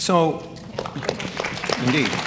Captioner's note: audience clapping